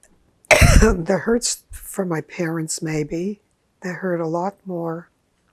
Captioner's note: coughing